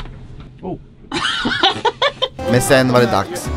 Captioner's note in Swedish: skrattar